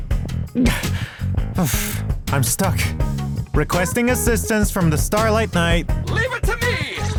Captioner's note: sigh